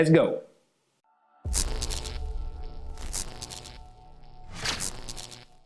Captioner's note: electricity sizzling